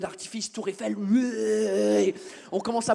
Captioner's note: english noise